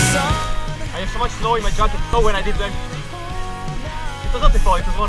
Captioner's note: spinning